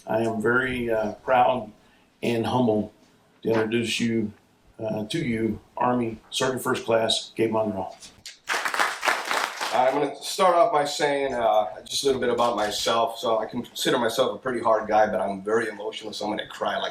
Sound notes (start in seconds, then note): 8.3 audience clap